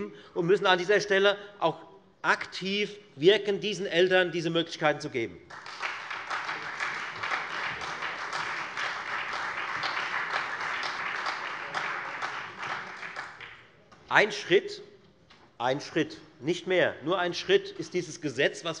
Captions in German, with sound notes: Wir müssen an dieser Stelle aktiv wirken. Wir müssen diesen Eltern diese Möglichkeiten geben. [Beifall Freie Demokraten und SPD] Ein Schritt, nicht mehr als nur ein Schritt, soll dieses Gesetz sein,